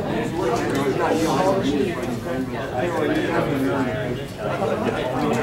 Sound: loud commotion and talking

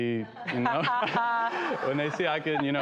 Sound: laughter

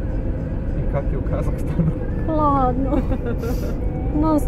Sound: laughs

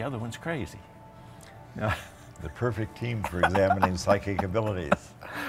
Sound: laughing

